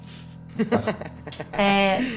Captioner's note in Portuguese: risadas